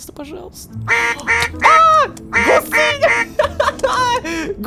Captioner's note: freaking out